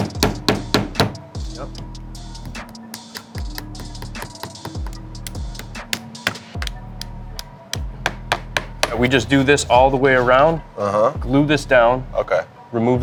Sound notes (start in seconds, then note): 0.0 hammer tapping; 2.4 hammer tapping